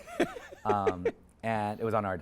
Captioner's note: speaker laughs